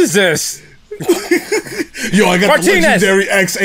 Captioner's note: laughter